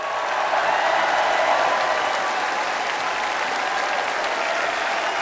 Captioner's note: applause